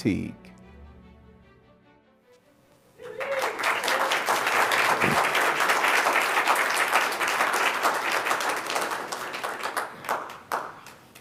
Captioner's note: applause